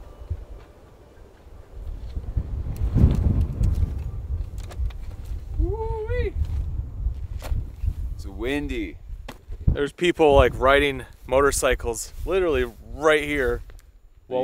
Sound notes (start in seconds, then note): 5.6 screaming